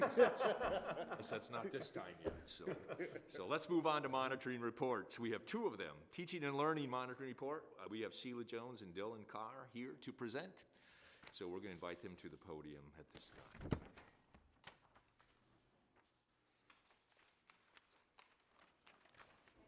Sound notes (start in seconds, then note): 0.0 laughing; 13.1 papers ruffling